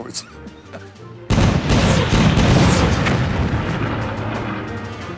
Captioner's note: gun firing